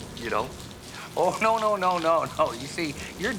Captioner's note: laughing